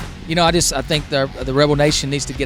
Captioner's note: voiceover